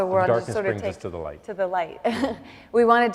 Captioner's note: laughs